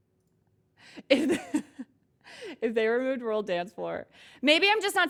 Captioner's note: laughs